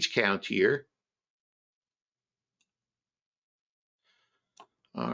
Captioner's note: mouse clicking